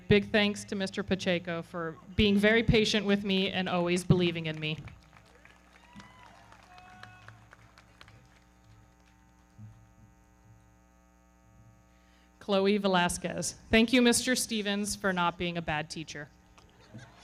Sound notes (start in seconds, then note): 4.4 everybody clapping; 5.0 audience cheering; 16.5 everybody clapping; 16.8 audience cheering